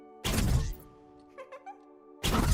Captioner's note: giggles